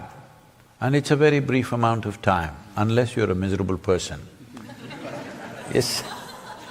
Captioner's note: few laugh